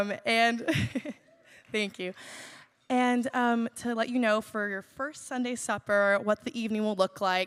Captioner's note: laughs